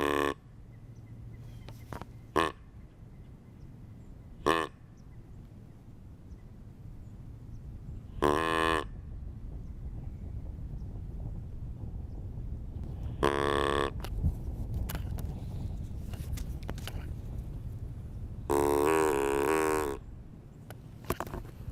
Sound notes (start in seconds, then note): 0.0 deer call honking; 13.1 deer call honking; 18.5 deer call honking